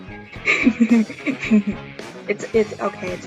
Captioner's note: silly giggle